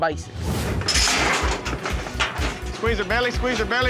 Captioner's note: chute clanking